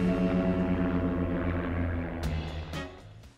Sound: plane engines roar

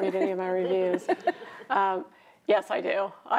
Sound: chuckling

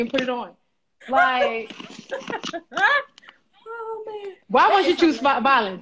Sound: laughs

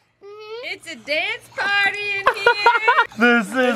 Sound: laughs

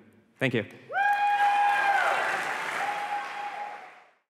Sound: applause and cheering

